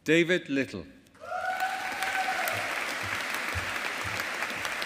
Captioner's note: audience applauding